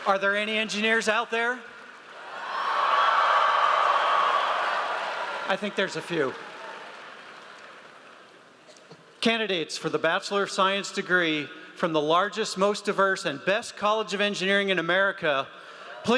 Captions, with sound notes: - Are there any engineers out there? (audience cheers) I think there's a few. Candidates for the bachelor of science degree from the largest, most diverse, and best college of engineering in America,